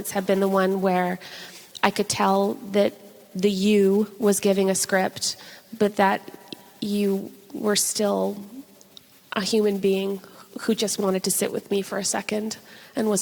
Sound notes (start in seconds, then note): none